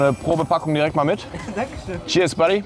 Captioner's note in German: lacht